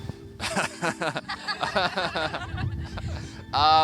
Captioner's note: laughs